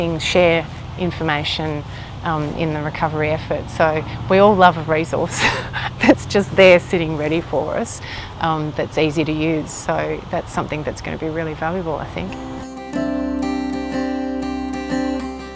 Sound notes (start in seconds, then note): 5.3 giggles; 11.5 upbeat music